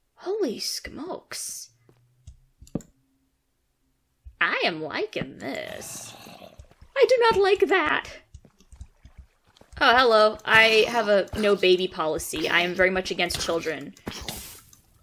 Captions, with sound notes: Holy skmokes. I am liking this. *zombie groans* I do not like that. Oh hello. I have a no baby policy, I am very much against children.